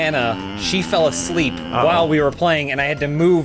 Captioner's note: snoring